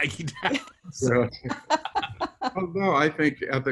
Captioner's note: laugh